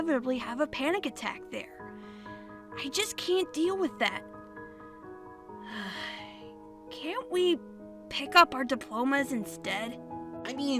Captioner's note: sighs